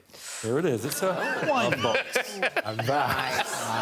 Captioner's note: Victoria inhales